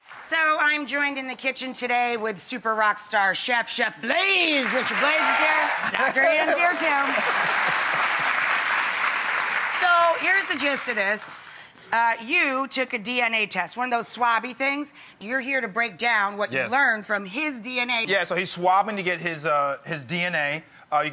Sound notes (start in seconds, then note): 4.6 audience cheers